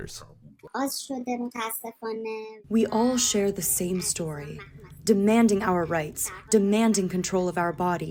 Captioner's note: through translator